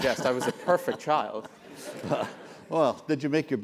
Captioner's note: laugh